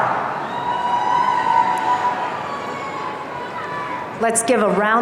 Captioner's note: audience cheering